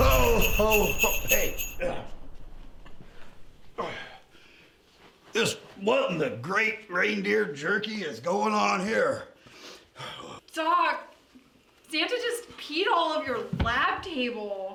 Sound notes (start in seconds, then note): 0.0 sleigh bells; 0.0 sound of Christmas magic; 0.0 explosion; 1.5 SANTA grunts